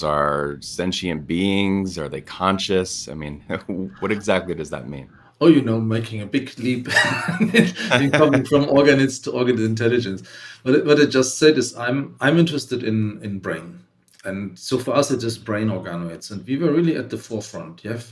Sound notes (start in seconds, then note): 6.8 laughs